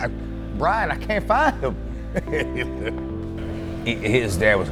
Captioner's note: laughs